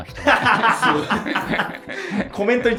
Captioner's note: laughing